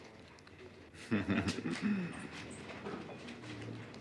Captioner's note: giggles